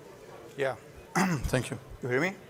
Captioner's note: clears throat